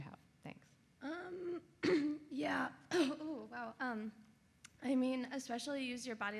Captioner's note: coughs